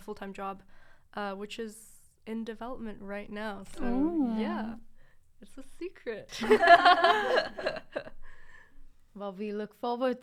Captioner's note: all laugh